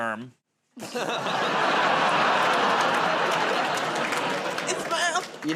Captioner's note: laughter